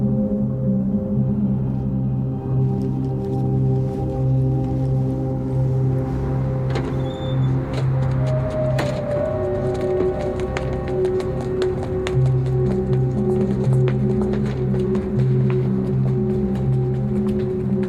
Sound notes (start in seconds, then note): 10.9 footsteps; 16.1 ominous music